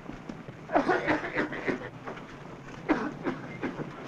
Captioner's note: coughing loudly